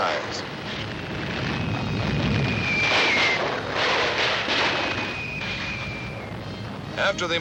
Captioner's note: explosions